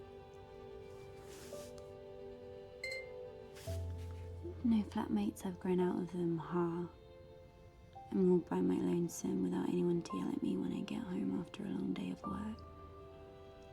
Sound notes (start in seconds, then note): 2.8 laptop chimes